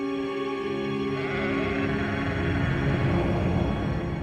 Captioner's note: sheep braying